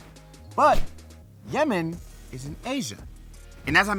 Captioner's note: map whooshes